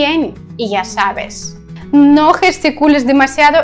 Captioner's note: in Spanish